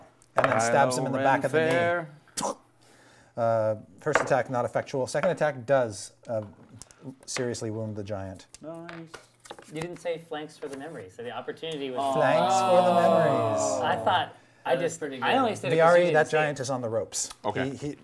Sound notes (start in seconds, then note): 12.1 groaning